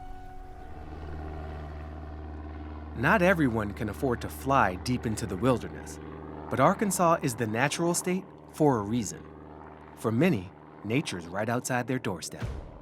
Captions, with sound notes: (plane engine rumbling) Not everyone can afford to fly deep into the wilderness, but Arkansas is the natural state for a reason. For many, nature's right outside their doorstep.